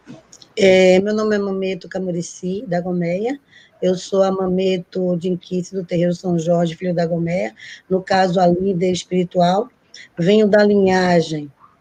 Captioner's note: speaking Portuguese